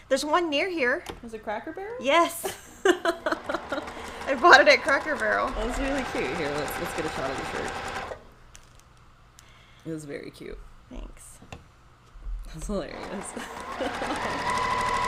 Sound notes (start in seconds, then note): 2.2 laughs; 5.5 sewing machine whirrs; 6.8 machine whirrs; 13.2 chuckles